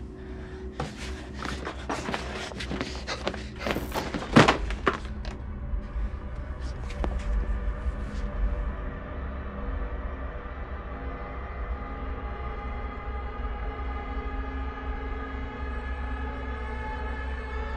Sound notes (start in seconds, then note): 3.6 electrical buzz; 5.0 suspenseful music